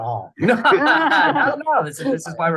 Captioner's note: laughter